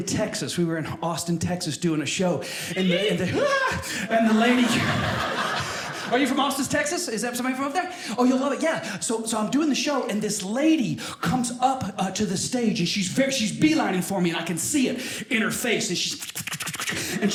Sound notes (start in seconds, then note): 2.7 audience member cheers; 4.0 audience laughing